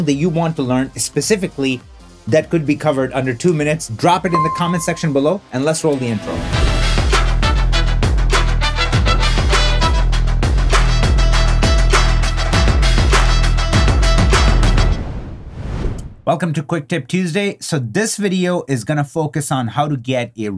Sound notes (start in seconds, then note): 6.7 upbeat music; 15.2 air whooshing